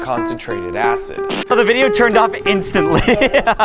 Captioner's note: Ipad buzzing